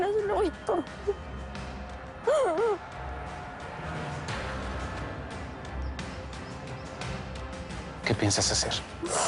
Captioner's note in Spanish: Sollozos